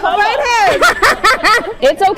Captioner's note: laughing